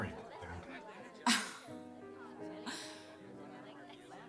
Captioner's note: laughing